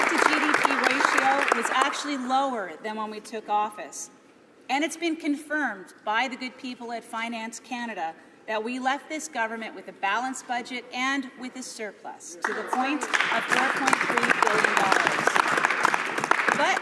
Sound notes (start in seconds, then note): 0.0 applause